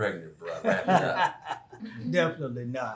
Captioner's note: Errol laughing